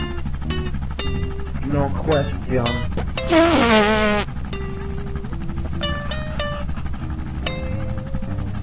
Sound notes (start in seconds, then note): 3.2 blows raspberry